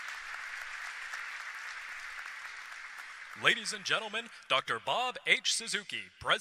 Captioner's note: applause